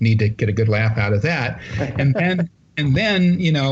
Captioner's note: laughter